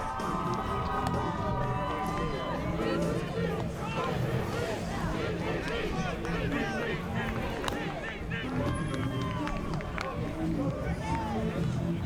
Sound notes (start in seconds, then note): 0.3 crowd cheering; 6.7 crowd chanting